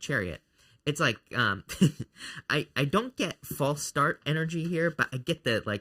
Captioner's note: chuckles